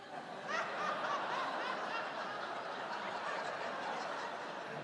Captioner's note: laughing